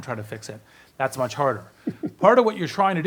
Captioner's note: giggles